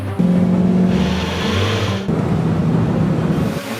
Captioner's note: intense electronic music; engine revving